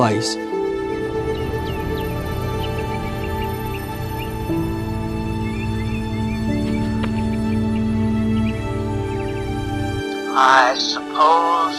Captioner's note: birds chirping